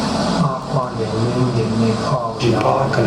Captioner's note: male voice speaking in Indigenous Myaamia language